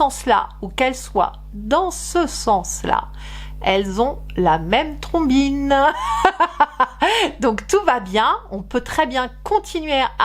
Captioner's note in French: rires